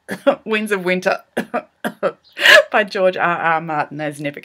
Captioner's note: cough, cough